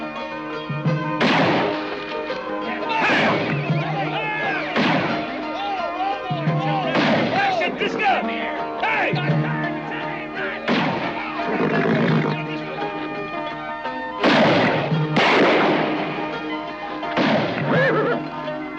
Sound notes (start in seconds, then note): 1.2 gunshot; 2.7 outlaws yelling; 6.8 outlaws yelling; 14.2 gunshots